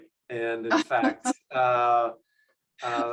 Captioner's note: laughs